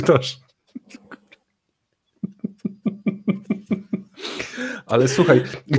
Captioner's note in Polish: śmiech